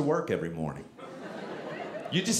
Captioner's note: audience laughing